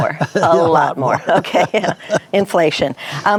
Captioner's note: laughing